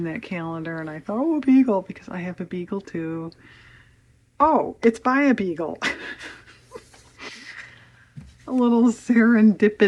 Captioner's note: laughs